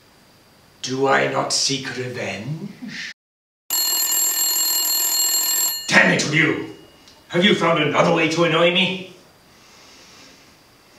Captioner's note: phone rings